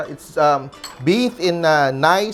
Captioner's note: clink